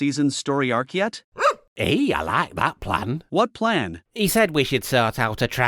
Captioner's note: woof